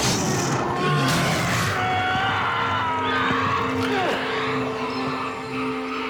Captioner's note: sharp thud; screams; minion growls